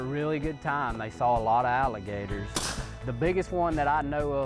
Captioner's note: gun firing